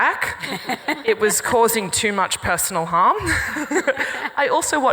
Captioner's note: laughs